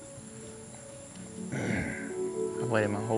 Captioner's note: clears his throat